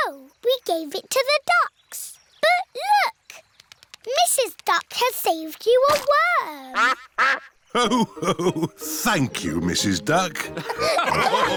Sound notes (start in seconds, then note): 6.7 quacks